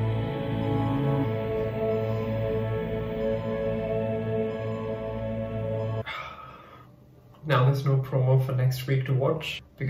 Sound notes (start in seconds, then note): 6.0 sighs